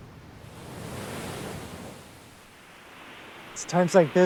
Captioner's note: waves crashing